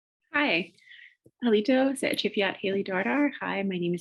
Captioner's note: speaking Native Language